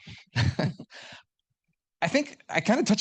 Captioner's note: laughing